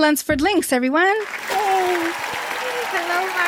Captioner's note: applause